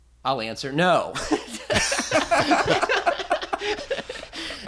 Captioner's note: laughter